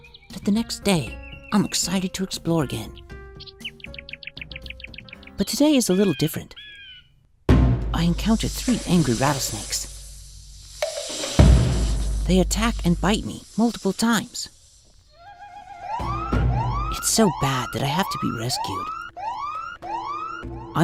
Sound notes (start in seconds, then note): 7.5 bird crowing, drum beat; 15.4 emergency siren